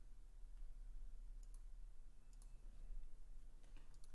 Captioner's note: clicking